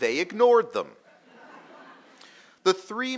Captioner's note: audience laughing